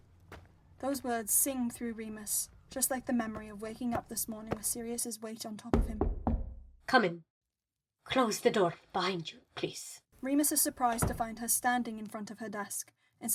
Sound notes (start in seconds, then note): 5.7 footsteps stop, knocking; 10.9 door closes